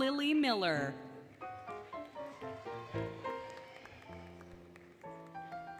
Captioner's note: applause, Cheering, Music